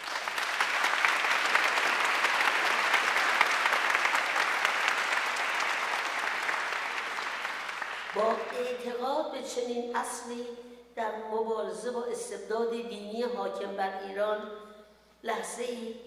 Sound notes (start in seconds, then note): 0.0 audience applauding; 9.4 speaks in foreign language